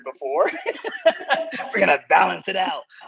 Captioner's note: laughter